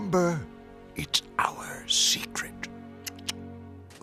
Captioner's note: quietly; clicks tongue